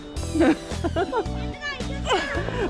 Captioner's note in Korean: 웃음